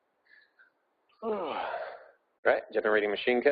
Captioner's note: yawning